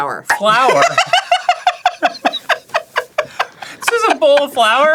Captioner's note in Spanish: riéndose a carcajadas